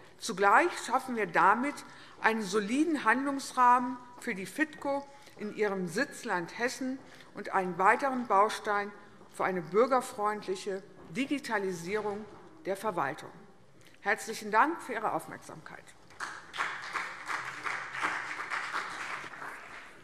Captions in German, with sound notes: Zugleich schaffen wir damit einen soliden Handlungsrahmen für die FITKO in ihrem Sitzland Hessen und einen weiteren Baustein für eine bürgerfreundliche Digitalisierung der Verwaltung. - Herzlichen Dank für Ihre Aufmerksamkeit. [Beifall CDU und BÜNDIS 90/DIE GRÜNEN]